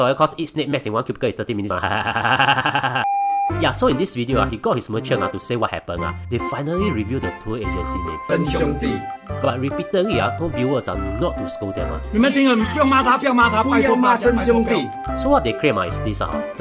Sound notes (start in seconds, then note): 1.8 irritating giggle